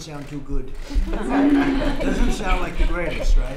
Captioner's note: laughter